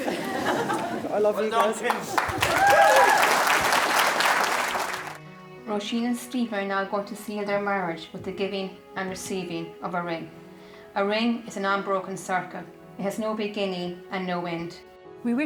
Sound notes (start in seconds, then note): 2.1 guests applauding